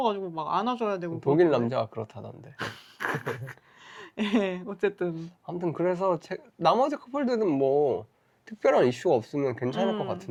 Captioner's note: laughs